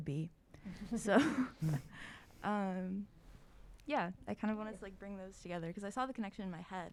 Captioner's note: laughs